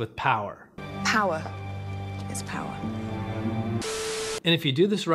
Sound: static

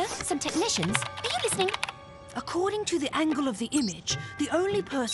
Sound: keyboard tapping

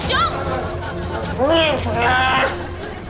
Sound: groaning

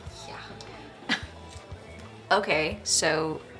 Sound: chuckles

